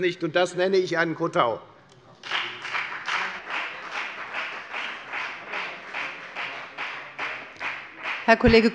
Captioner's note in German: Beifall bei der FDP